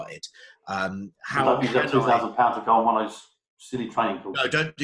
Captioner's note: murmus